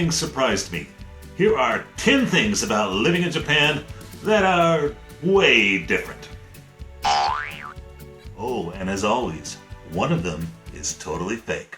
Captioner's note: boing sound effect